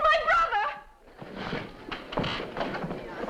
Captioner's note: crowd murmuring